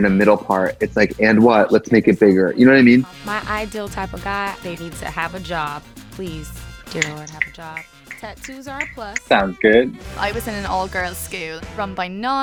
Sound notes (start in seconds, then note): 5.9 upbeat music; 7.0 snapping; 10.0 fast paced rock music